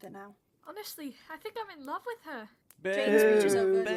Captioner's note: James and Sirius both start booing